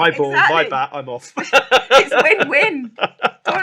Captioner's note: laughs